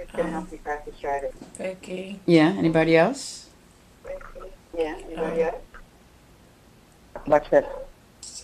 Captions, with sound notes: - Vicky. - [Voiceover] Yeah, anybody else?